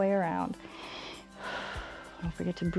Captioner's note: inhales and exhales